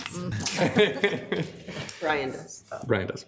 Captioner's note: laughs